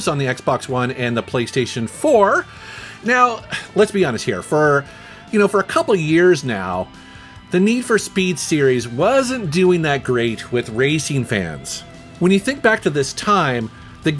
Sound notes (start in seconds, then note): 3.3 sighs